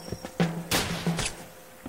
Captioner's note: gunshot